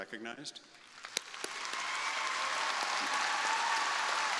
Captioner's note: crowd applauding